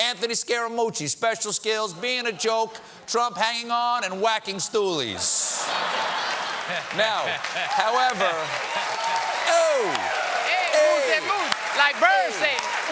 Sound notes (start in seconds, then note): 7.2 cheers and applause; 7.2 laughter